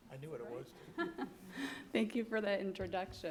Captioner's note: laughing